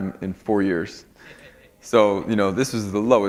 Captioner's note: laughter